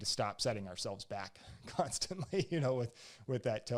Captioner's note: laughs